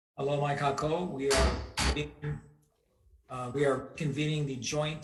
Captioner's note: gavel banging